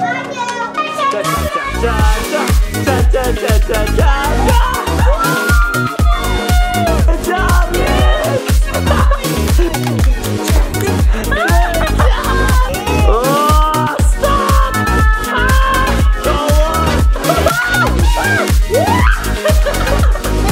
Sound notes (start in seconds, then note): 5.3 everyone shouts; 11.8 laughs; 14.2 shouts; 16.2 everyone shouting and laughing